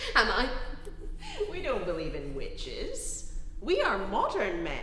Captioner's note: chuckling